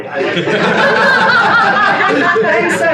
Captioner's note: audience laughter